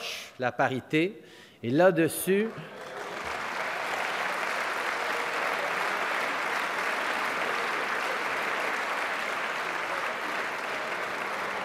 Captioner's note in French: Applaudissements – ovation debout